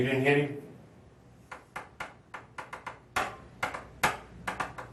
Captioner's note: detective tapping pencil